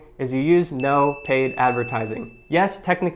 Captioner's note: bell ringing